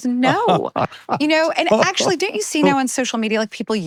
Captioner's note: laughing